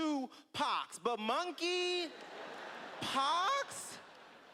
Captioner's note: laughter